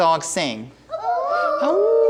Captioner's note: children howling